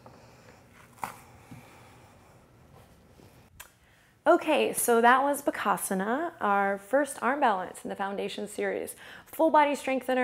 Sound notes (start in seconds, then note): 1.2 exhales